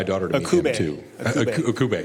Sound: laughing

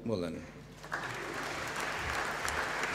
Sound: applause

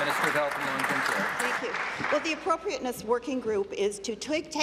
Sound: applause

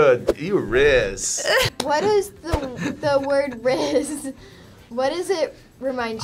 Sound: claps

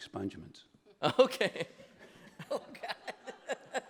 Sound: laughs

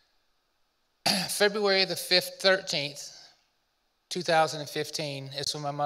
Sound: coughs

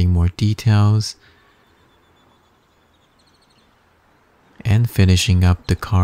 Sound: birds chirping

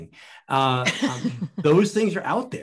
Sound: laughing

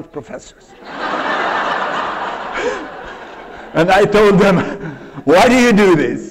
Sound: laughter

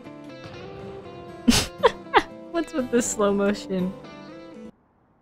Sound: laughing

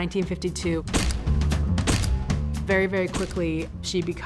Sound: flashbulbs popping

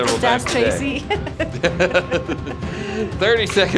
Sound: laughing

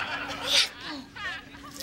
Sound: whispering

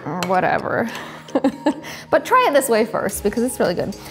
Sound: chuckles

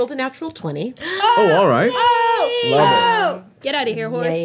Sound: party cheering

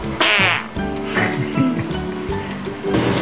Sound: this sound is not a fart sound, but a sound made by mouth. 🤣🤣🤣

